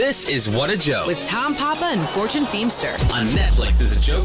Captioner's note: woman voiceover